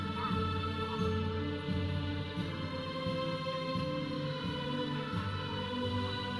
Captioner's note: audience chattering; processional music